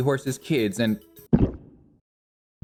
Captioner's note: gulp